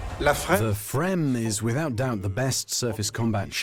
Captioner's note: voiceover